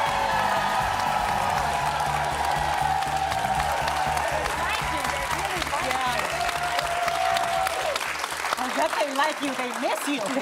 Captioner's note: cheers and applause